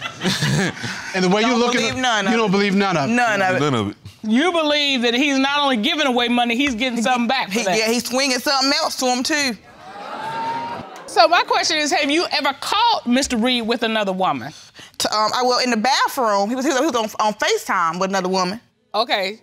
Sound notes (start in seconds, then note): 0.0 audience laughs; 9.7 audience exclaiming